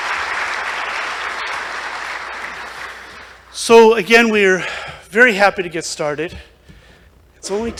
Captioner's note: applause